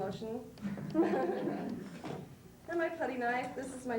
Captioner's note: laughs